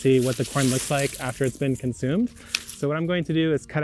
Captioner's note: corn stalks rustling